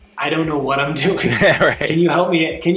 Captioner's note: both laughing